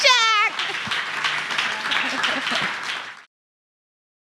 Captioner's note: audience applauding